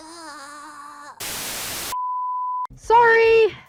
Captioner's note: TV Static and Bleep